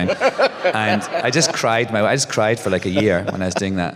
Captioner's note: laughter